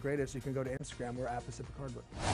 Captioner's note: logo whooshing